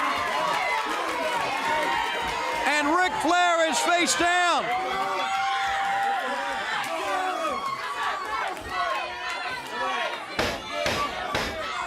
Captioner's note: crowd cheering